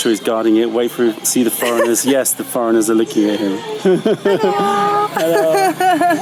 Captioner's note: laughter